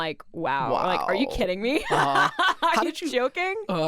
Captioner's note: laughing